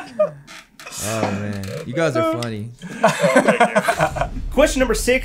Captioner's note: laughter